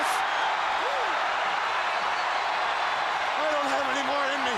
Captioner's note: crowd cheering